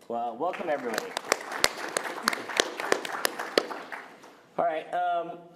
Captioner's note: applause